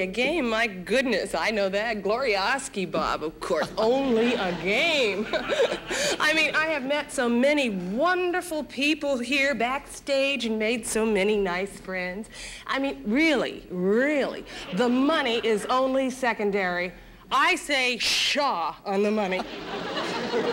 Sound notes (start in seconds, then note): 4.1 laughing; 19.4 audience laughing